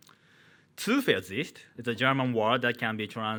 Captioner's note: man speaking in foreign language